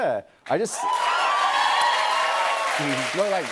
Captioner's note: cheers and applause